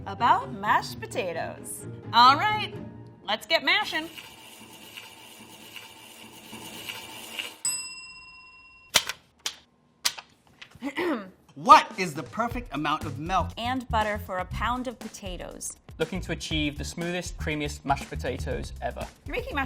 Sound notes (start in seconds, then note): 7.6 bell ding; 10.8 clears throat